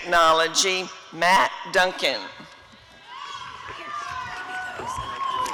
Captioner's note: applause and cheering